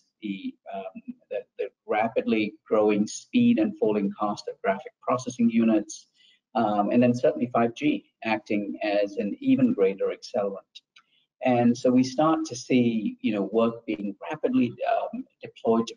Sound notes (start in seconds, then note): none